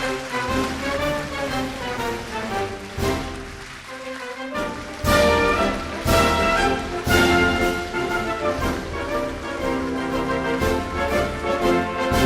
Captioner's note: applause